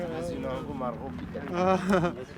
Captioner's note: laughing